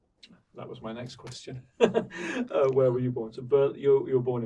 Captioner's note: laughing